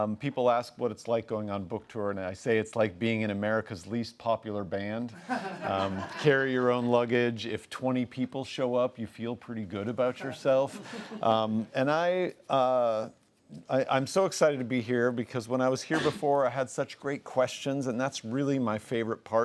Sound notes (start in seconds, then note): 5.2 laughs; 10.2 laughs